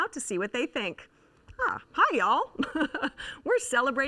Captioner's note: laughs